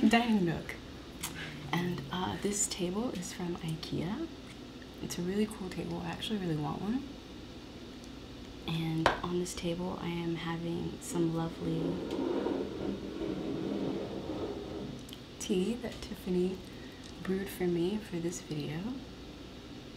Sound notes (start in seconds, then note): 11.6 cup scraping across table